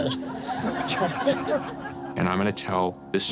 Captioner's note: laughter